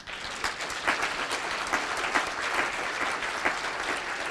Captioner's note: applause